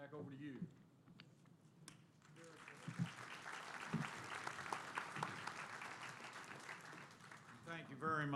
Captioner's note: applause